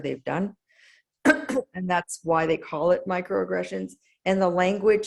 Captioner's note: cough